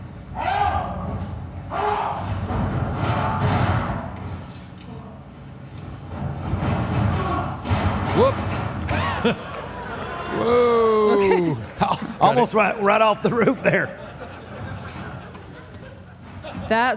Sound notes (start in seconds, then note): 8.8 laughs; 13.2 audience laughs